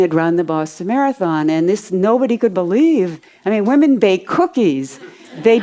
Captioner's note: audience laughs